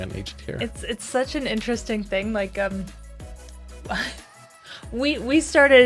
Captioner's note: chuckles